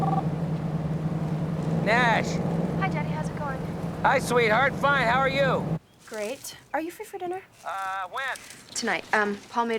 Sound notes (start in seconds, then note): 0.0 phone ringing